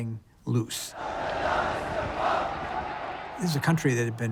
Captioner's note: crowd chanting